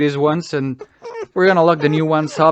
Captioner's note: whining